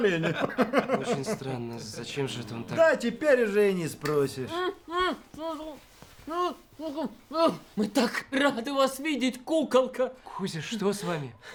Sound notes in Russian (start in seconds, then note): 0.0 смех; 4.8 мычанье в кляпе